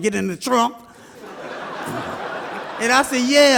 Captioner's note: audience laughs